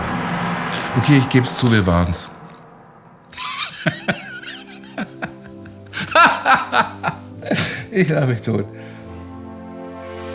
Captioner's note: laughter